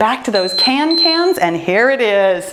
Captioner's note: timer beeps